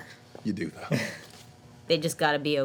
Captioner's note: chuckling